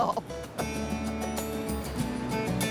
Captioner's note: laughs